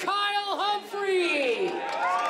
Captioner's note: applause